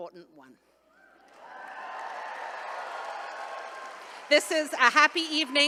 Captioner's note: attendees cheering